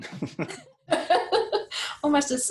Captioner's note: laughs